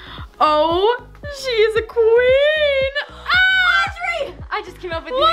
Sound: girls squeal

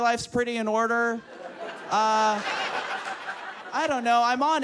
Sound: audience laughs

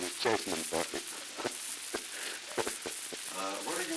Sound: chuckling

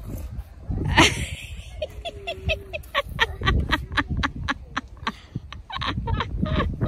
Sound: cackles loudly

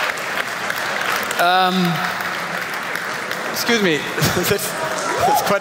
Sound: applause

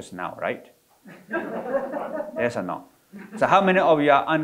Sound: audience laughing

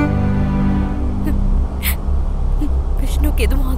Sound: sobbing

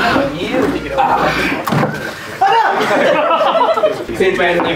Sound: laughs

